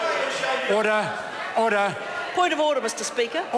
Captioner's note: members speak loudly